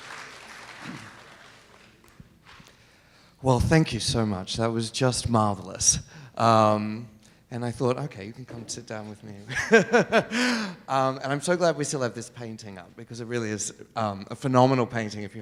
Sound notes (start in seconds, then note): 9.6 laughs